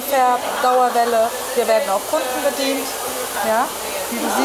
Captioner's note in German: Föhnlärm